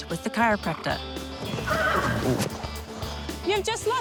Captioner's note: horse neighs